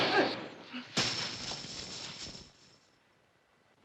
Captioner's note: gunshot; thump & coins clinking